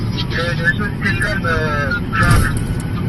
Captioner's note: radio chatter